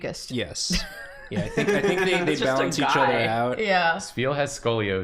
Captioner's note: laughs